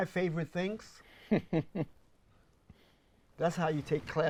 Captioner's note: laughs